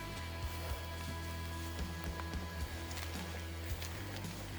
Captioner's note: footsteps rustling